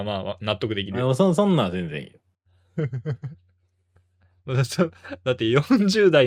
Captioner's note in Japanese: 笑い